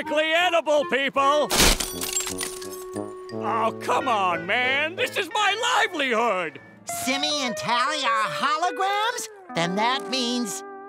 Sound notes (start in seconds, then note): none